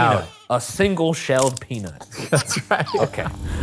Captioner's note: laughing